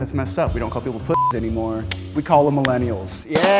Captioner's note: beep